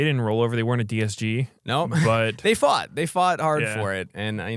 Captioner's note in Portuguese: risos